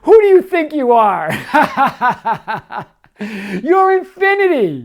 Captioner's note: laughing